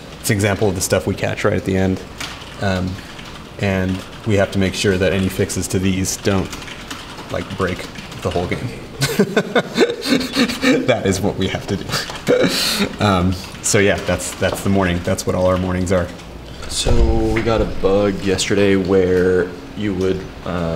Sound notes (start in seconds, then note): 9.0 laughs